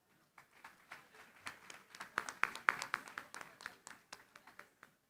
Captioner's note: applause